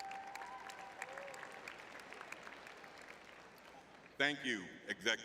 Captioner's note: clapping